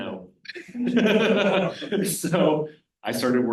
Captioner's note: laughs